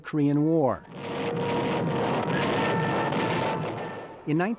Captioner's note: artillery firing